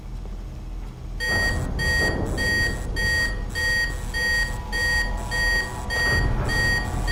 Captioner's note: alarm sounding